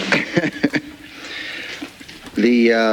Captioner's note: laughing